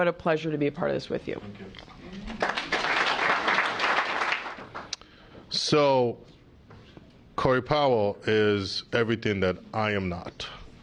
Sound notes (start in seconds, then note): 2.2 applause